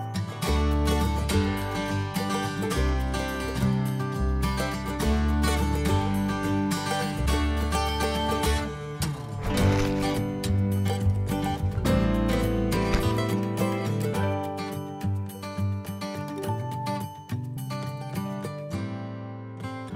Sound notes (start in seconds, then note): 0.4 upbeat music; 9.2 soil crunching